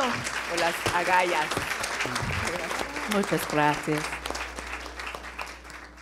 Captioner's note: speaking in foreign language